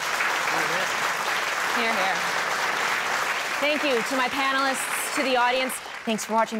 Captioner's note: applause